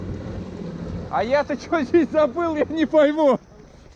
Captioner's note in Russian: смеется